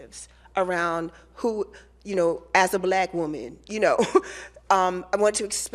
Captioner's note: laughs